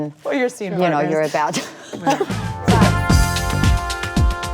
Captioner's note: laughs; upbeat music